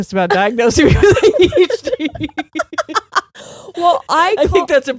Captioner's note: both laughing